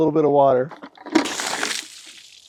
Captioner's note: water sloshing